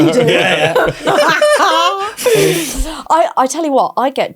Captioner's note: group laughs